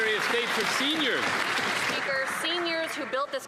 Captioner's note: applause